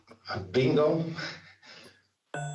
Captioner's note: chuckles